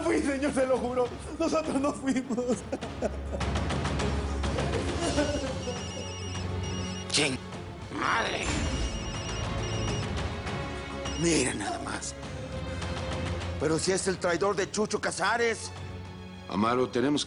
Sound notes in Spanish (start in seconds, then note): 5.2 Suena el celular